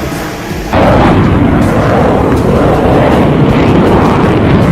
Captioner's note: airplane engine roaring